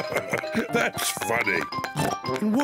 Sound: honks horn; laughs; oinks

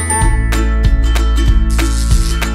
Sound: electric buzz

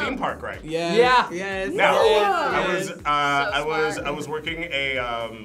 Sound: group oohs

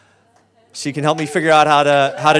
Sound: audience claps

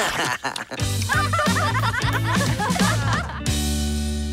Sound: laughs; all laugh

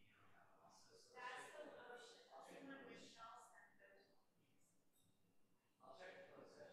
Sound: faintly speaking

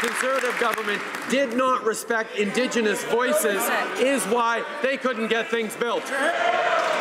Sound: some applause

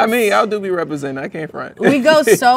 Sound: laughs

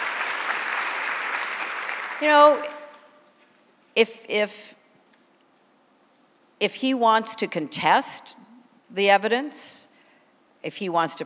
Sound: applause

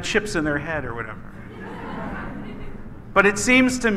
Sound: laughing

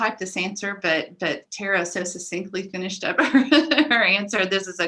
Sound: laughs

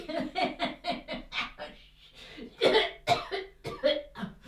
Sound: sung; mama has entered and is coughing and laughing

